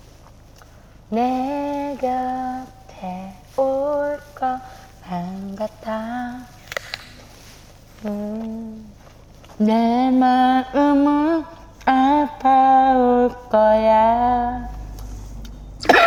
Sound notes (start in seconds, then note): 6.7 crunch; 15.8 cough, cough